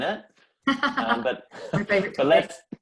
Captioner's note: laughs